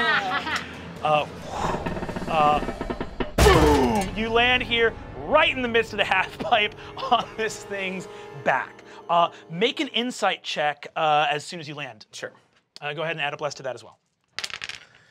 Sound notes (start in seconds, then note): 0.0 laughing; 1.0 whooshing